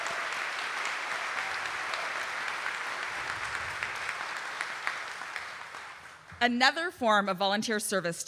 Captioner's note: audience applauding